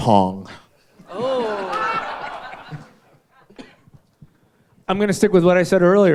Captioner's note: audience laughing